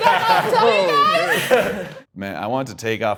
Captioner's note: laughing